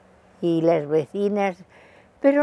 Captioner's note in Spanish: Gritando